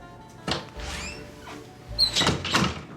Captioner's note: door opening